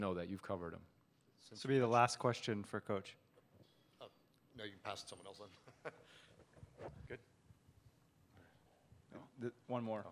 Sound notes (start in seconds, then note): 5.5 laughs